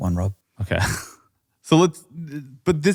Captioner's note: laughs